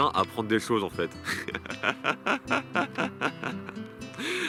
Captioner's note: laughs